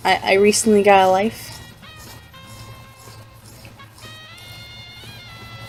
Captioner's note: scratch, scratch, scratch scratch